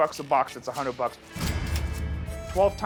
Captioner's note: cash register dings